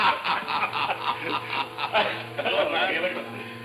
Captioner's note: men laughing